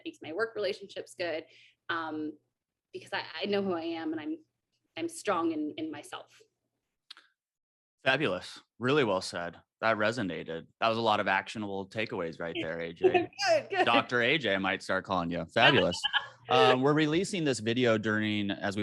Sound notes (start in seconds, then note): 15.6 AJ laughs